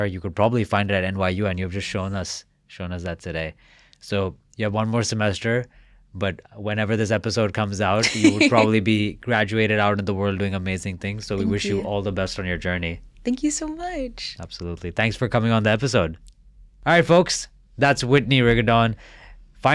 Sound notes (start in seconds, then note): 8.0 laughing